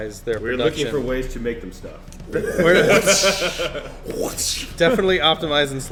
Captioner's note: everyone laughing